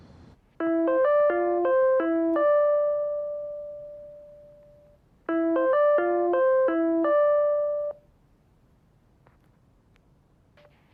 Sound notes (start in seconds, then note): 0.6 web call ringing